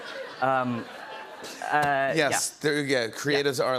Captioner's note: laughter